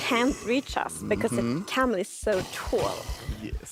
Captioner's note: laughs